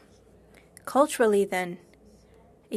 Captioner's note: speaking French